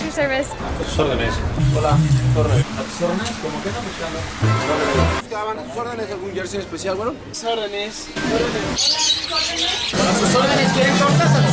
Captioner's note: vendors speaking in Spanish